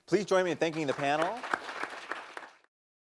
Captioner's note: applause